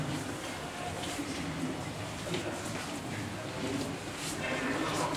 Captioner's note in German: Lacher, Gemurmel